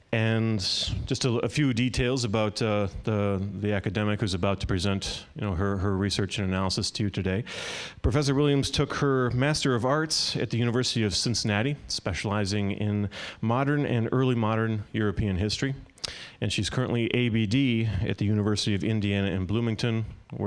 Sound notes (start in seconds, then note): none